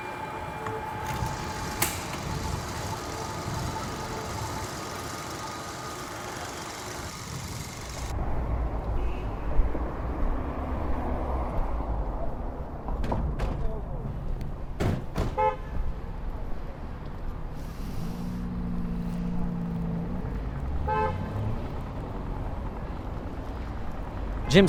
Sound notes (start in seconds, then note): 0.0 projector whirring; 0.4 projector clicks; 8.9 traffic humming; 13.7 horn honks; 14.7 door rattles; 20.8 horn honks